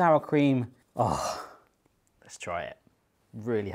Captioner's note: sighs